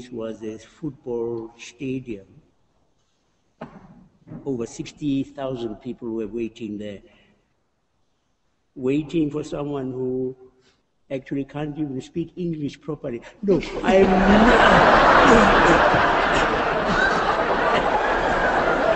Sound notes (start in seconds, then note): 13.4 laughter